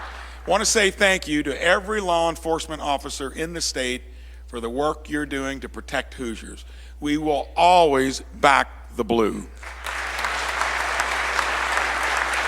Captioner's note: applause